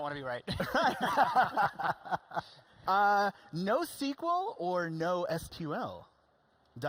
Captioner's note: laughing